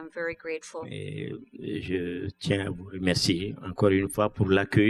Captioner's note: speaking french